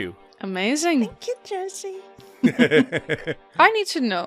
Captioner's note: laughter